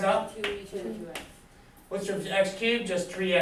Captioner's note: students talk softly